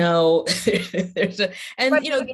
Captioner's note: laughs